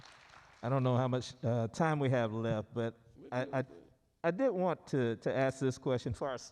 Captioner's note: applause